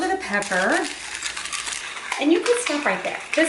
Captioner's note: grinding